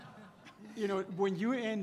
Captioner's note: laughter